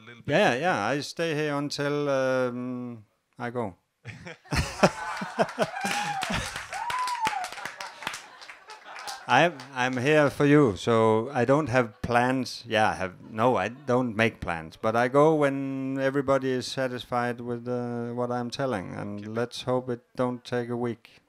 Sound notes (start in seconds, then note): 4.1 laugh & applause